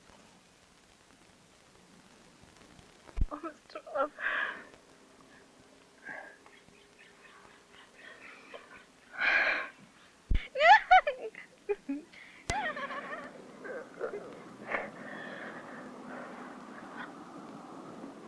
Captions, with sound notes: - Oh, Mr. Oliver... (giggling)